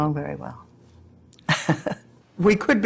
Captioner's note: laughs